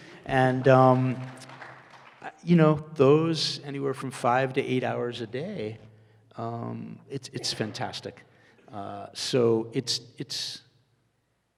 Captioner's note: audience laughter and applause